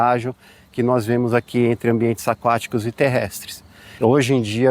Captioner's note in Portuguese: som de pássaros